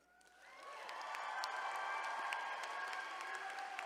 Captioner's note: attendees cheering